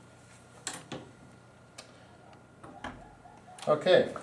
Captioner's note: door closes